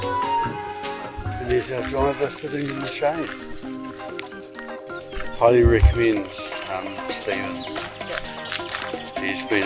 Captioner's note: car horn